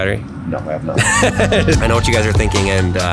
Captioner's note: laughs